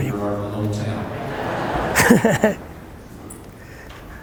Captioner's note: laughs